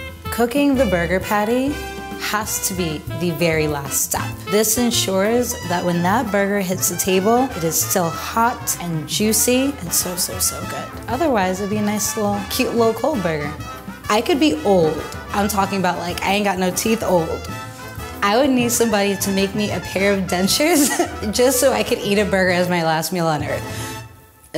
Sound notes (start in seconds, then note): 0.0 upbeat music; 20.7 laughs